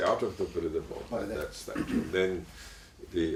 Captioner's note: cough